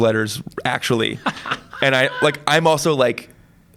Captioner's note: laughs